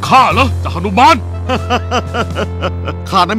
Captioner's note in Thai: หัวเราะ